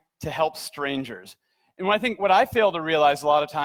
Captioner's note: none